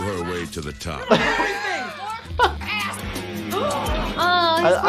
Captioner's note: actors yelling over each other